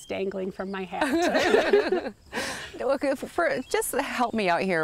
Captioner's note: laughing